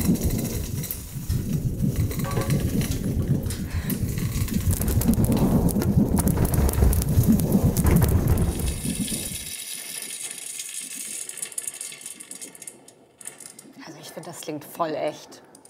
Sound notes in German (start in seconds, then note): 1.0 Prasseln und Donnern; 4.6 Leichter Donner kommt hinzu; 9.1 Prasseln und Rauschen